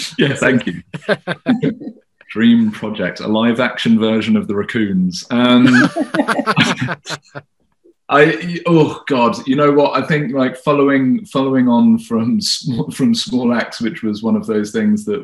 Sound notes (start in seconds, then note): 0.0 laughing; 5.4 both laughing